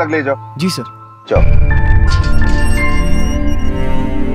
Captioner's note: Gate opens